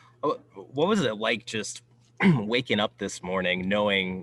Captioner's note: clears throat